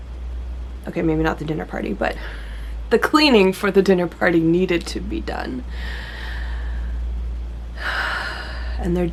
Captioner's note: deep breath, exhale